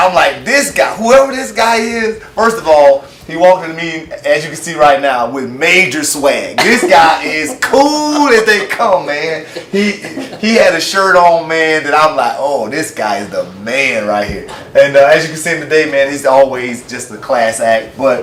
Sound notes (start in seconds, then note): 9.3 laughs